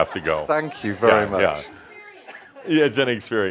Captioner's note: someone shouts “It’s an experience”